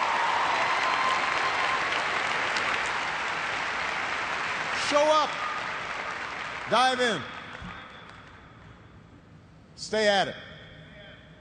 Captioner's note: cheers and applause